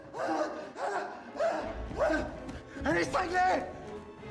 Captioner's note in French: halètements bruyants